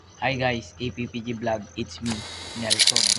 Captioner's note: Tagalog